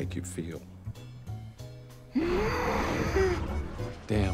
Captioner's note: grunts